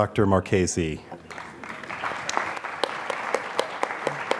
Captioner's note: applause